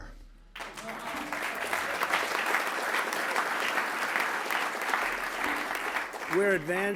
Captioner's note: applause